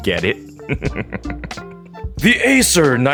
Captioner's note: evil laughs